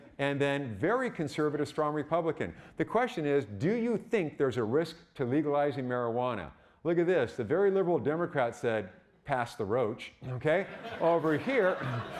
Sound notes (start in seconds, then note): 10.6 audience laughing